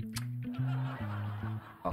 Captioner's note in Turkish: Gülme efekti